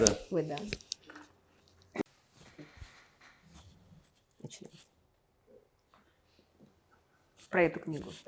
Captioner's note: pause 7 seconds